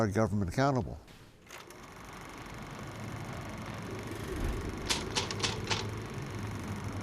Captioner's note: film projector whirls; typewriter clicking